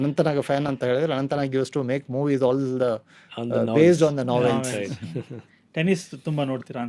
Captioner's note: laughs